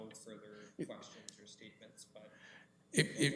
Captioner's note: comments off mic